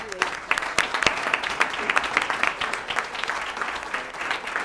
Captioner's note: applause